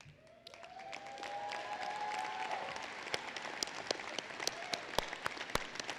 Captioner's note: applause